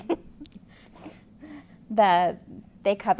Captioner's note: laughter